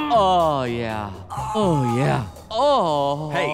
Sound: moans

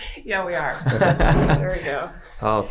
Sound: Glenn laughing

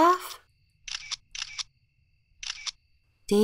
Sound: clicking sounds

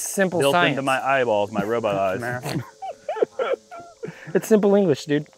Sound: laughs

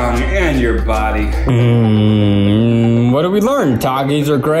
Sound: humming

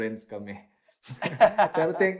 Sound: laughs

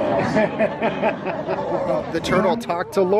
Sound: audience laughs

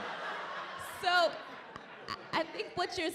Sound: audience laughing

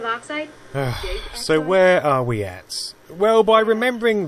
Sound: sigh

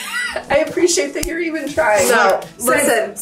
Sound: laughing

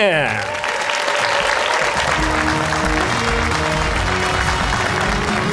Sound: cheers and applause

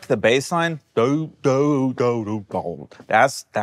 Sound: imitates bass guitar

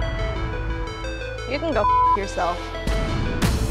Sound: beeping

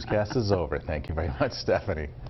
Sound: laughter

